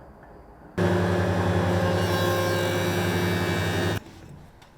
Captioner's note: machine whirring